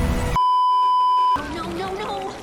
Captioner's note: beeeeeeeeeeeep